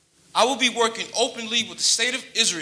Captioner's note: none